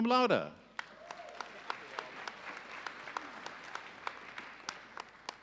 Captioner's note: audience applauding